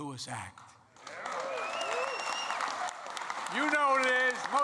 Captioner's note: applause